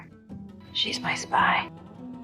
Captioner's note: voiceover